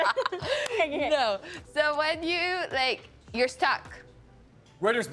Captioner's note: laughing